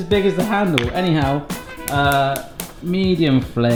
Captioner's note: flame snapping